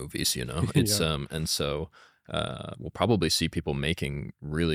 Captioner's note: laughs